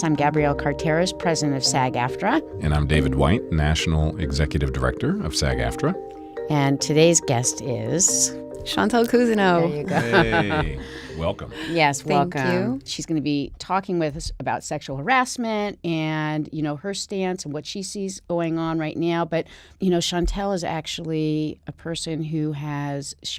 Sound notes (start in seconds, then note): 9.7 laughs